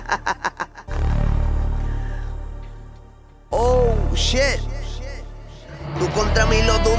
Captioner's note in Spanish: risas